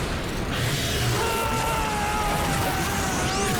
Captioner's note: screaming